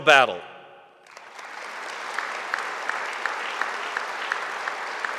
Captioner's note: audience applauding